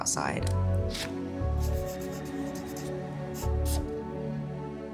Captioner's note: pen scribbling